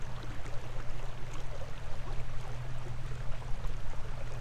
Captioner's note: sounds of water